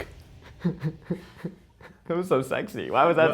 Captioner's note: giggling